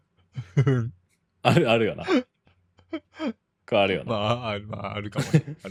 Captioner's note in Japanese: 笑い